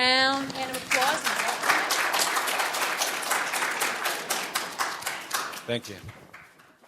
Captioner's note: audience applauding